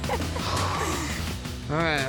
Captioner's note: breathes heavily